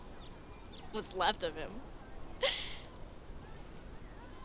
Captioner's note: laughs